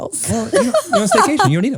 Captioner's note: laughs